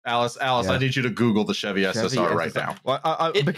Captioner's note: keyboard tapping